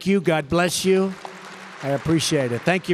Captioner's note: applause